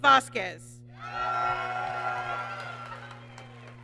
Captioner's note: applause